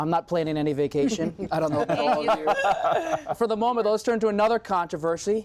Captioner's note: laughter